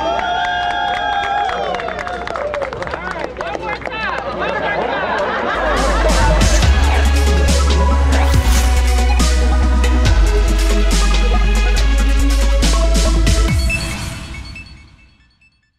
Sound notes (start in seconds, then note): 5.9 cheers and applause